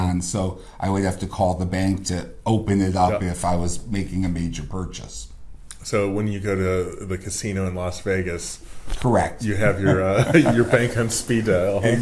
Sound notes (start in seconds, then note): 9.6 laughs